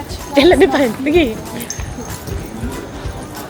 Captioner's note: speaking German